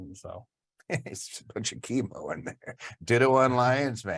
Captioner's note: laughs